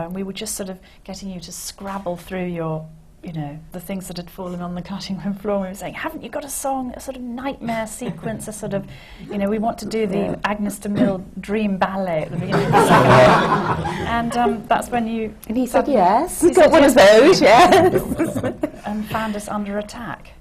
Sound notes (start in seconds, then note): 12.4 laughter